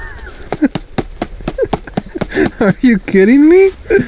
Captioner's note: laughs; dirt rustling; hand rapping